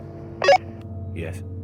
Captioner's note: radio beeps